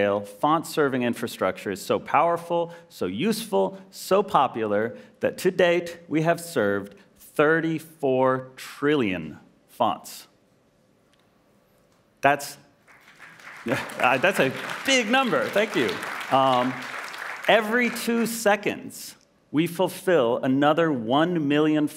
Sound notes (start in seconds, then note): 12.8 applause